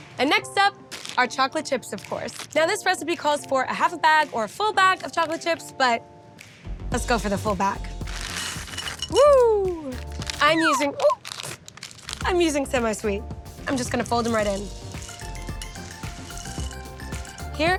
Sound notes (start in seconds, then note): 8.0 chocolate chips thudding; 15.0 bright upbeat music